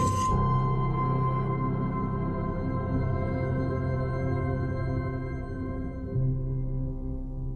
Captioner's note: mechanical whir